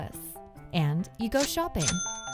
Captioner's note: cash register bell chiming